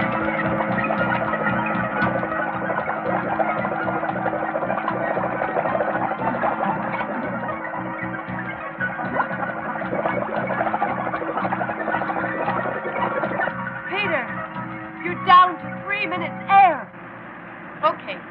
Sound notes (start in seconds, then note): 3.1 bubbling; 8.0 ominous music